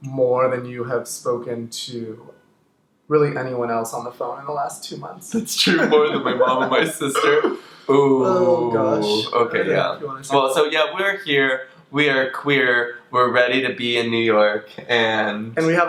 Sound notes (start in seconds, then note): 5.3 laughs